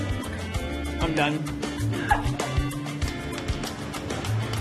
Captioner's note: laughs